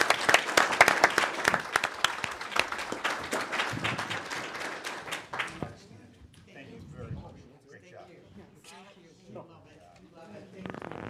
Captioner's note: applause